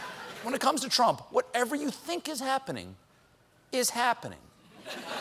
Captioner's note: laughter